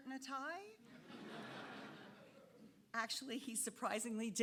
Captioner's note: audience laughing